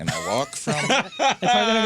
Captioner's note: laughing